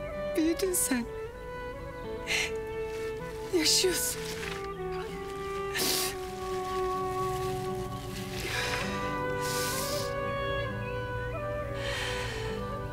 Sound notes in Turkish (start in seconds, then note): 5.5 Ağlıyor